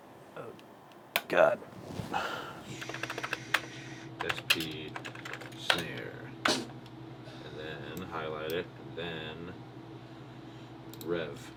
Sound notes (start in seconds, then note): 2.7 keyboard clacking